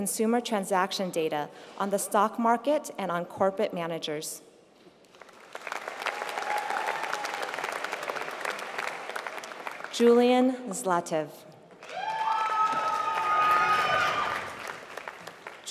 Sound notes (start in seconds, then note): 5.0 applause; 11.7 applause